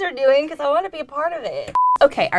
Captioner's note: beep